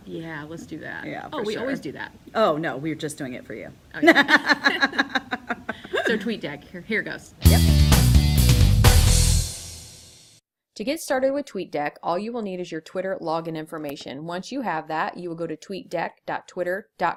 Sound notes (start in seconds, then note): 4.0 laughter